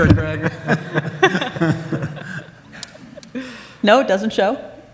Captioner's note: audience laughs